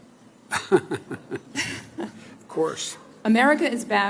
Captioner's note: laughs